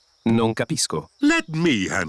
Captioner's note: replies in italian